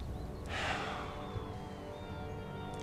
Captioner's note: sighs